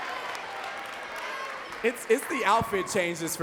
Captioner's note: audience cheering and clapping